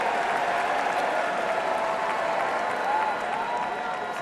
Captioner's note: cheering and applause